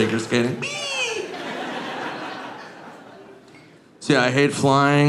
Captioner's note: audience laughing